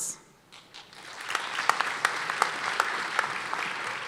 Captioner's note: applause